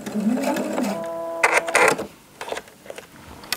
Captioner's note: whirring, short creaking